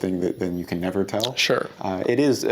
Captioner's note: none